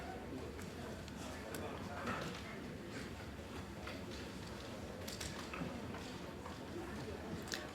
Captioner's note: general chatter